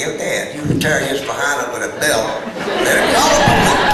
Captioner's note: laughter